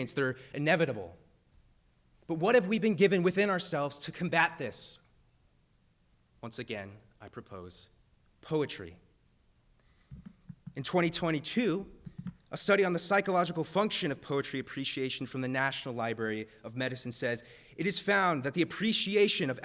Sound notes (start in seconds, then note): none